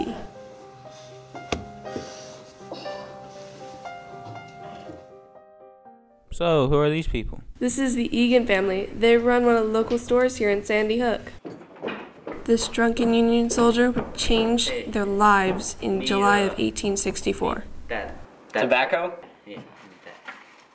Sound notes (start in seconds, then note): 10.6 footsteps